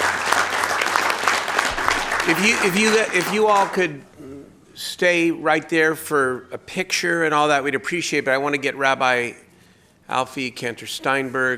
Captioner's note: applause